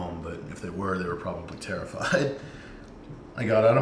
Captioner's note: chuckles